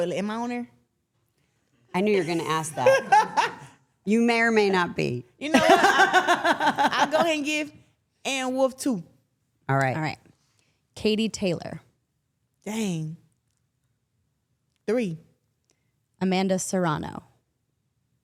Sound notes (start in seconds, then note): 2.0 Claressa laughs